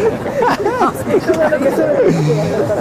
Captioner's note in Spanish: Risas